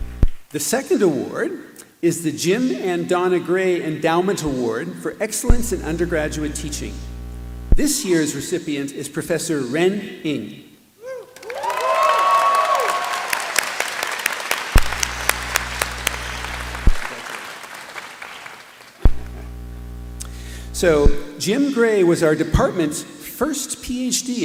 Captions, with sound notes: The second award is the Jim and Donna Gray Endowment Award for Excellence in Undergraduate Teaching. This year's recipient is Prof. Ren Ng. [APPLAUSE] So Jim Gray was our department's first PhD